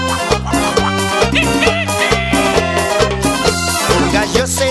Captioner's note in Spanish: Música alegre tropical; Sonido de animales